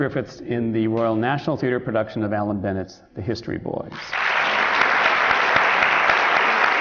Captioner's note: applause